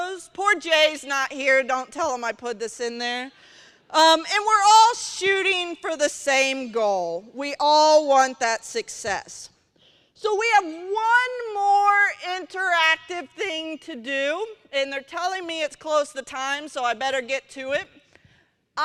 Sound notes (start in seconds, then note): none